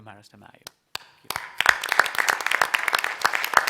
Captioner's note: applause